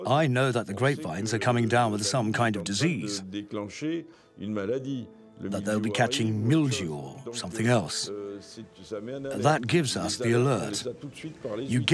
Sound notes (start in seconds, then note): 3.8 speaking in foreign language